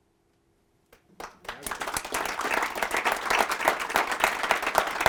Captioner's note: applause